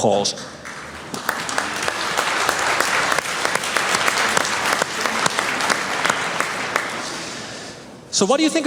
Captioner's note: applause